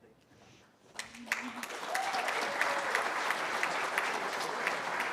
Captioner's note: cheering